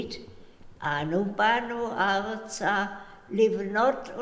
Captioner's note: in Hebrew